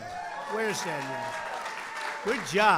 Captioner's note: applause